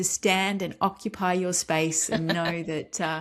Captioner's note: laughs